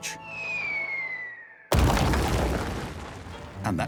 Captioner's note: whistling; crash